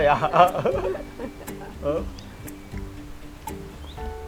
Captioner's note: both laughing